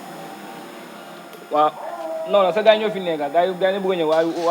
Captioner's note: man talking on the phone